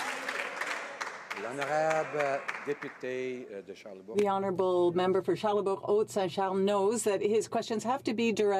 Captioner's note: some Applause